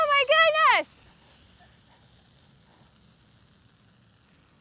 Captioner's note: fizzing